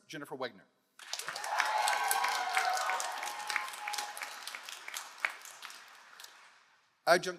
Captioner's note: all applauding; all cheering